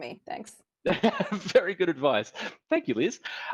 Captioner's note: laughing